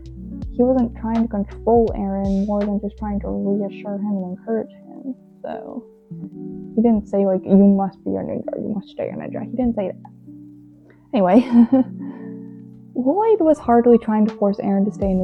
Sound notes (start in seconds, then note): 11.4 laughs